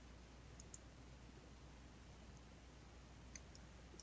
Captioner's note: mouse clicking